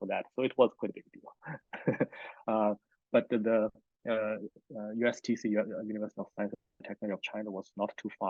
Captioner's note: laughs